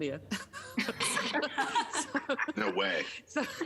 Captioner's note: laughing